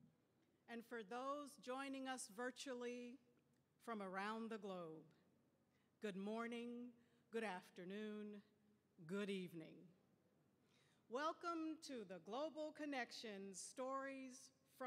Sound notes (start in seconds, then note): none